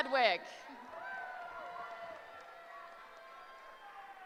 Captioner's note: cheering